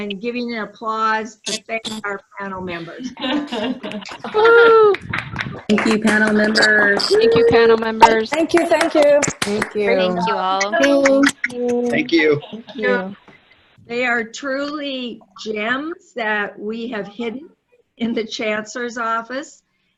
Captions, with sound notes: giving an applause and thanking our panel members [laughing] >> Woohoo! [applause] >> Thank you panel members. >> Thank you panel members. >> Thank you, thank you. >> Thank you. >> Thank you all. >> Thank you. >> Thank you. >> Thank you. >> Thank you. >> They are truly gems that we have hidden in the chancellor's office.